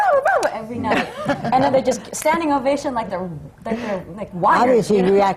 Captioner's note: laughter